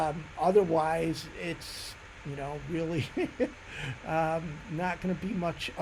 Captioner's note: laughs